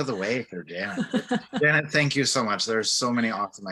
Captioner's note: laughs